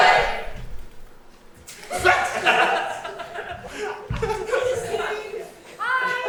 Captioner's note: audience laugh